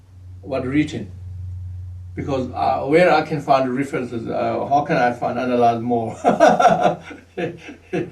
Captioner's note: laughs